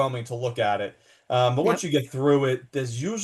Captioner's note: laughs